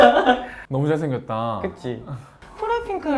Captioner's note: spiritlessly